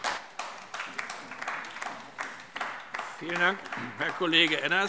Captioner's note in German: Beifall AfD